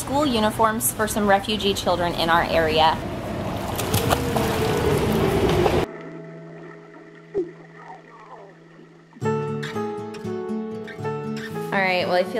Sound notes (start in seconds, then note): 4.0 relaxed guitar music; 6.1 splashing; 9.4 upbeat music